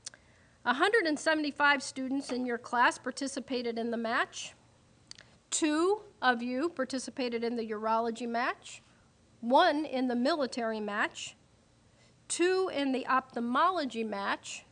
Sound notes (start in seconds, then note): none